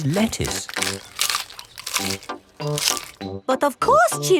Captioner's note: munching